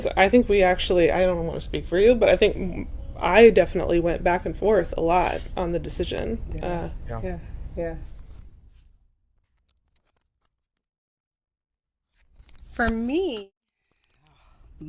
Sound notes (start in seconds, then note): 8.1 mic passing silence since we didn't have enough mics